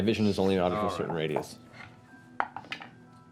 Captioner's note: none